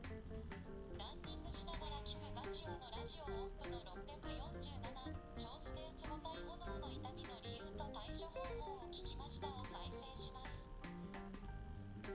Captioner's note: voice assistant's voice